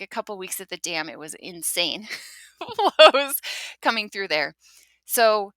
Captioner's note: chuckles